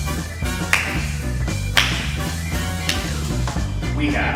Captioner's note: only Belladonna clapping slowly